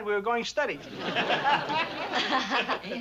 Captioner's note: all laughing